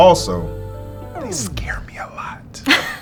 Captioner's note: record scratching sound; whisper; laughing